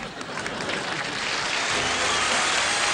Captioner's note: applause